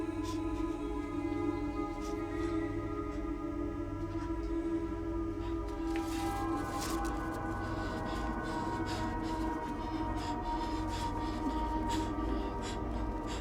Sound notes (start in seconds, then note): 6.0 paper rasping and rustling; 7.8 Dorothy gasping